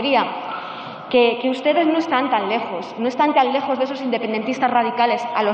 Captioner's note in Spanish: none